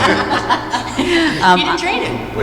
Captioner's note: laughter